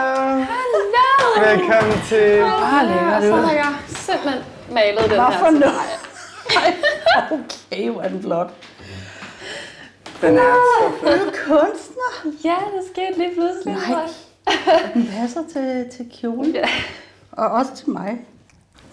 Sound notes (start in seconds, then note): 5.2 laughs